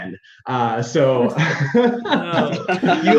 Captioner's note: group laughing